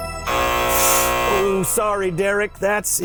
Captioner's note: buzzer sounding